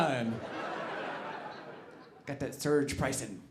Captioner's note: audience laughing